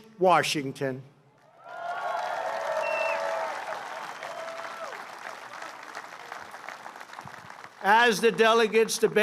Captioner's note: applause